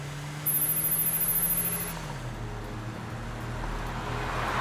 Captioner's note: electronic beeping